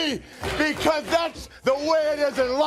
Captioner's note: crowd cheering